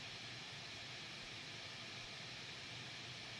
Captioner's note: none